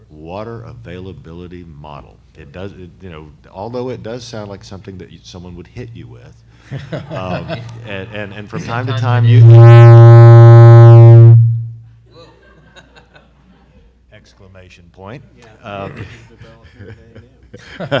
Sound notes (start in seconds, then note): 6.7 laughing; 8.5 feedback buzzes